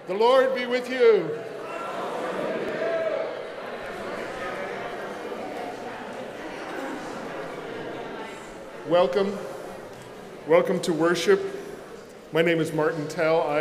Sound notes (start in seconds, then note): 3.9 congregation chatters